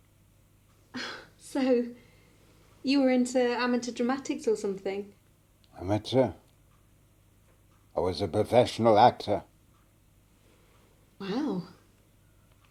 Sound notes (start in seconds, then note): none